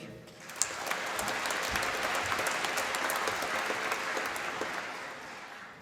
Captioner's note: applause